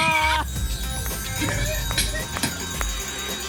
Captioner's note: applause and cheering